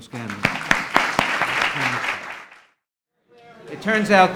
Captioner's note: audience applauds